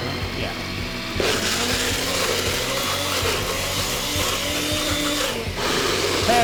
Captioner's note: blender and food processor running